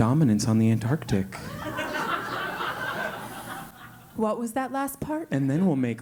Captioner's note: laugh